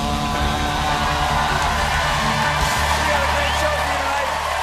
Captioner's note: cheers and applause